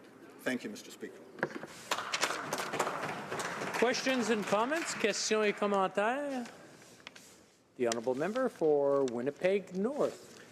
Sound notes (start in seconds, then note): 4.9 applause